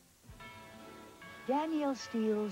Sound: NBC chimes

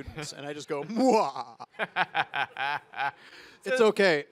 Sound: laughs; evil laugh

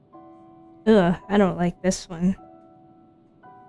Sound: disgusted noise

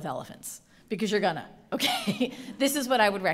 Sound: laughing

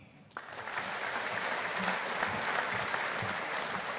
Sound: audience applauding

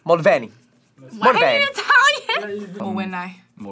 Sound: laughs

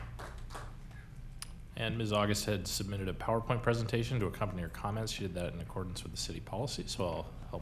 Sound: applause

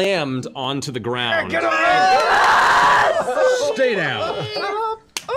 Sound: cheering

